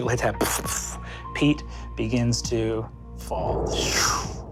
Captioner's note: mimics blasts; mimics air whooshing